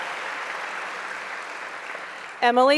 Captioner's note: applause